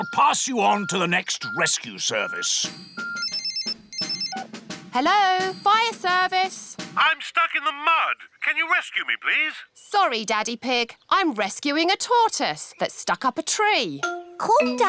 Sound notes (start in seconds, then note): 3.5 phone rings